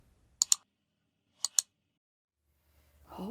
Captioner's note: clicking